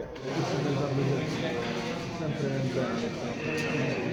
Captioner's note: chattering